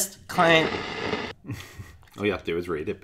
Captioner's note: buzzing; laughing